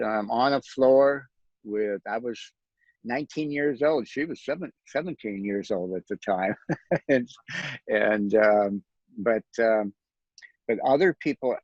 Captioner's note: laughs